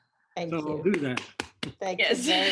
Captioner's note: applauds